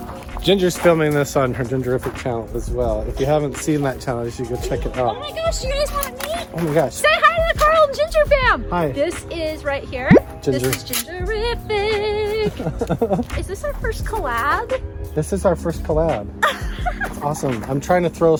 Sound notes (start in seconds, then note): 12.4 laughing; 16.4 laughing